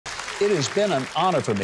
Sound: audience applauding

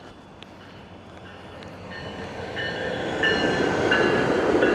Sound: train engine roaring

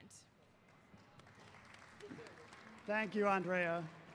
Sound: audience applauding

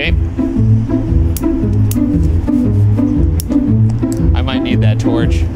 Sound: lighter flicks

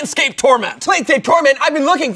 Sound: yelling

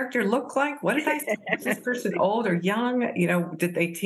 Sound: laughter

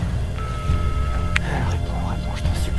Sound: beep

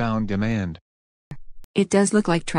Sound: voice-over

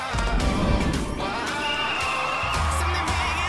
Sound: whistle blowing

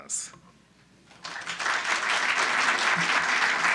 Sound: thanking in Japanese; applause

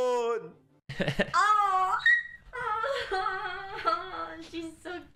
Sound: in Spanish; squeaks

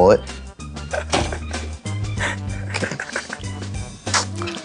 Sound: laughing

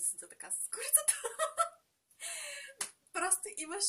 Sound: laughs in Bulgarian

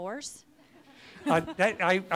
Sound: audience laughs

